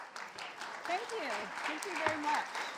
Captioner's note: audience applauds